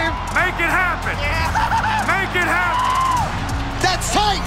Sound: laughing

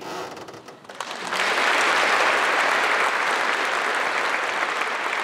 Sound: applause

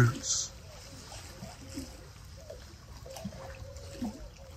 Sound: water lapping

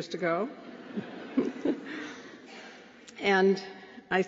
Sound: laughter

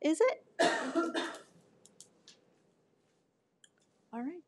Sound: person coughing

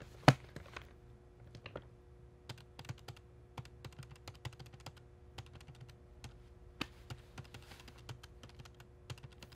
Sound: typing

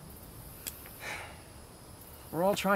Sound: sigh

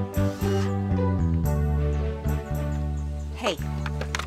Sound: drill whirring

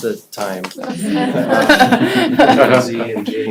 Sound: laughter

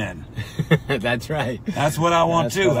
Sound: chuckles

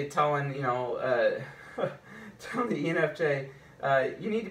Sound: chuckles

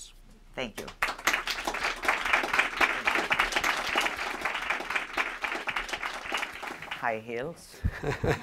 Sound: applause

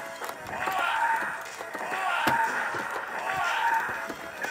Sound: fighters grunt, yell

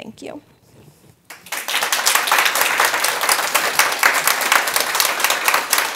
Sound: audience applauding

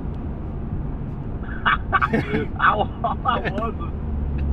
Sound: laughs

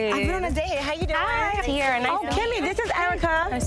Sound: group chatting

